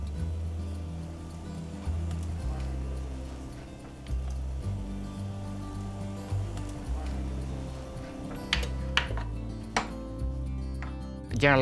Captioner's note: cooks talk in background